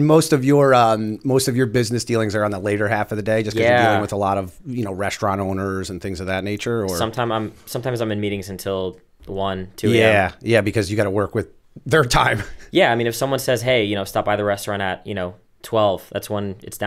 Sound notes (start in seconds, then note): 12.3 laughter